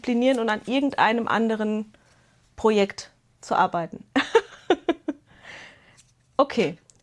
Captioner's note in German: Gelächter